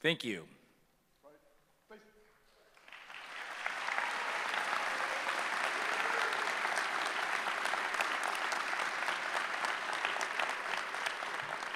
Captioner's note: applause